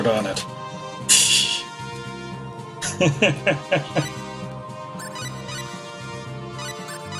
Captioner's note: laughs